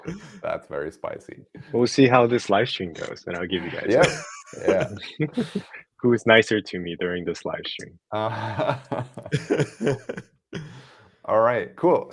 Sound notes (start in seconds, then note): 8.2 laughter